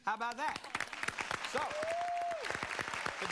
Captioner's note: crowd applauds